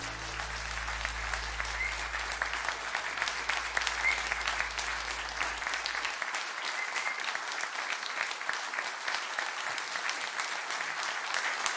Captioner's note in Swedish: applåder